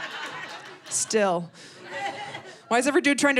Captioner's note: audience laughing